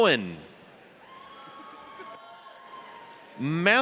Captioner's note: audience cheers